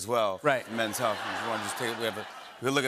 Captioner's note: laughter